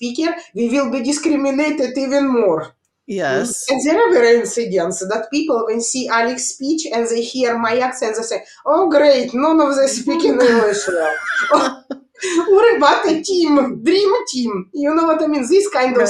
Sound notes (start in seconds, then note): 9.9 all laughing